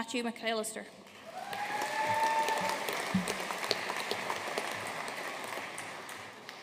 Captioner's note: audience cheering and applauding